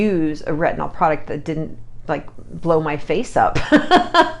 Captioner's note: laughs